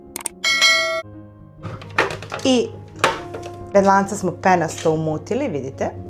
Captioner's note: bells